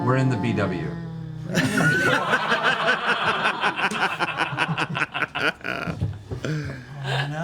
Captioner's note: laughter